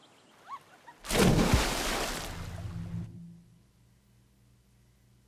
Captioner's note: water splashing